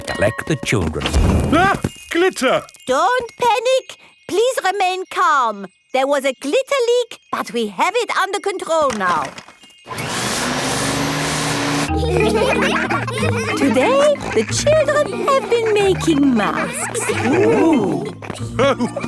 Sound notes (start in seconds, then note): 9.8 whirring; 11.8 all laughing; 18.9 laughs